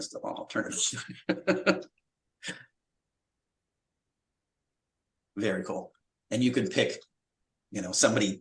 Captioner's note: laughter